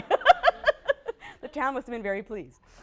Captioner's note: laughter; laughs